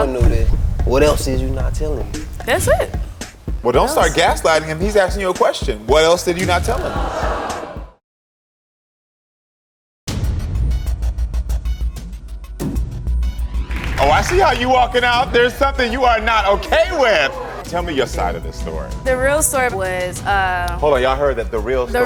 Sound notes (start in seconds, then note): 6.4 audience exclaims; 9.8 tense music